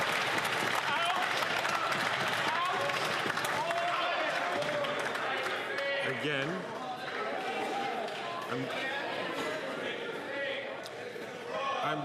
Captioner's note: some Applause